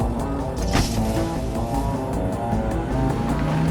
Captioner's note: engine revving